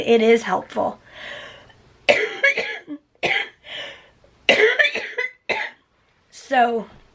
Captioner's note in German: husten